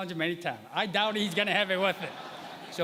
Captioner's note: laughter